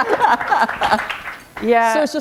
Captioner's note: laughter